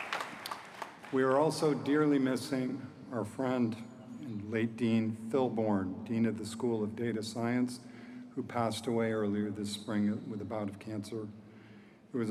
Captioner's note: applause